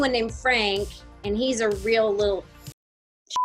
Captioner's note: beep